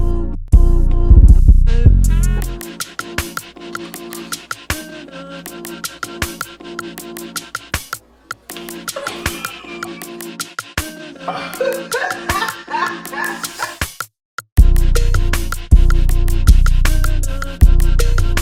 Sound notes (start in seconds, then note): 9.6 pair laughs; 11.1 buoyant music